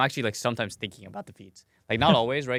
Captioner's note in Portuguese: risos